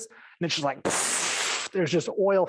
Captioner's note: whooshing